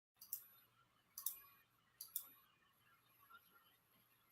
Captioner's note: clicking